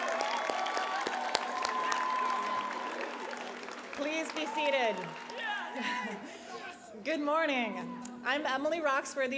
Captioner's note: applause